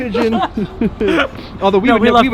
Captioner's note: laughing